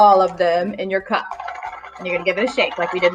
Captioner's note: counters rattling